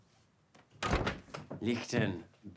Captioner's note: door clicking